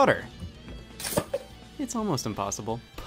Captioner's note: cup thuds